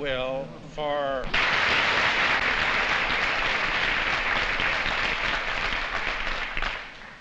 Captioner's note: applause